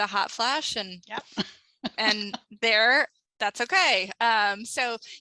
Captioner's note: laughs